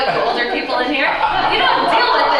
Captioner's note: laughter